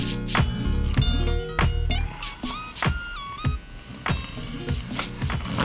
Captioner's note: hip hop music continues; clippers buzzing